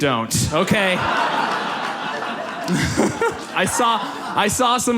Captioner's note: audience laughs